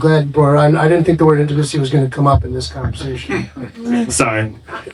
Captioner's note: laughing